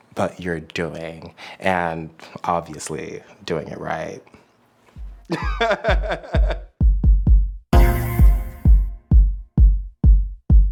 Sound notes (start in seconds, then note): 5.2 laughs; 5.4 upbeat music